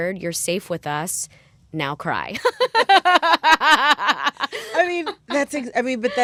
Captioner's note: laughter